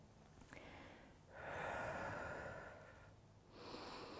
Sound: exhaling; inhaling

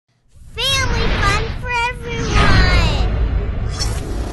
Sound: voiceover

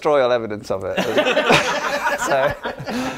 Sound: laughter

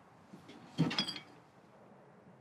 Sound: bottles clang

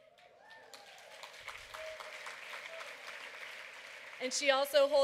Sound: applause

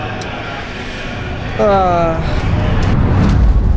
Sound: sighs

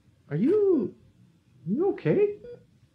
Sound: none

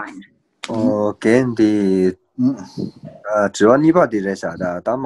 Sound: foreign language

